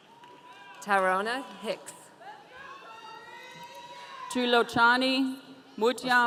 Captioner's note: audience cheering